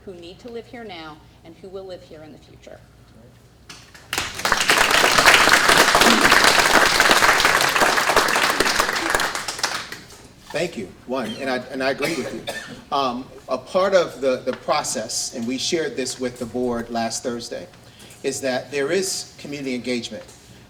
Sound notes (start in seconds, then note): 3.7 audience clapping